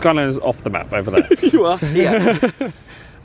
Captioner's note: laughing